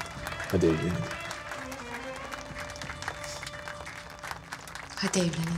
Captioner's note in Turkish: Alkış